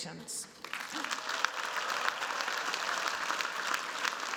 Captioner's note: applause